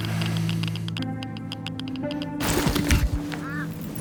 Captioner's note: sensor crackles